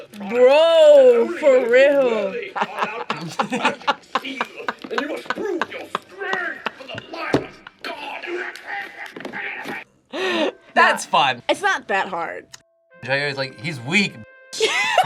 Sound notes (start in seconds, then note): 2.6 laughs; 9.4 grunts; 14.6 laughs